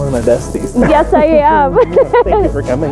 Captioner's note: laughs